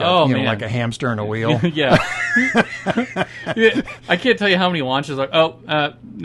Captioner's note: belly laughing